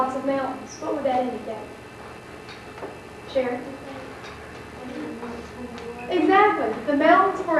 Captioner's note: student answers quietly